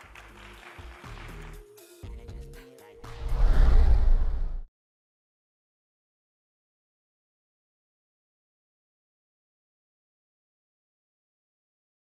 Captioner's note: applause